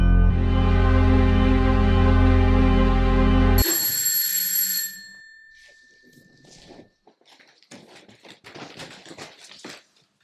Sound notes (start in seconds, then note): 3.5 doorbell ringing